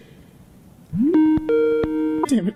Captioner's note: Skype call jingle